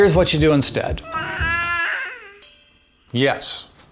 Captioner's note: babbling